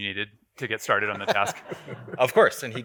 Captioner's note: audience chuckles